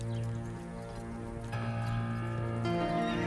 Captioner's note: horses walking